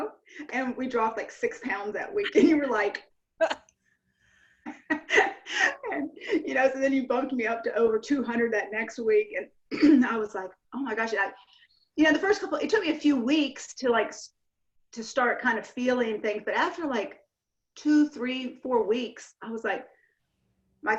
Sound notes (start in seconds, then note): 4.7 laughs; 9.2 clears throat